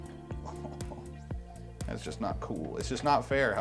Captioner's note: chuckles